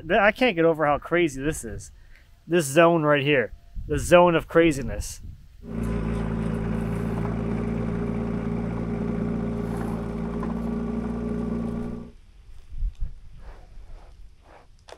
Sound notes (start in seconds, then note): 5.6 machine rumbling